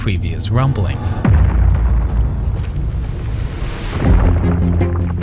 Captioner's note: ground rumbling loudly; intense music